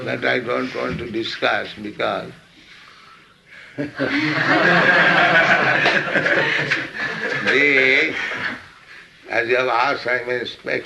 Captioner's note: laughs; laughter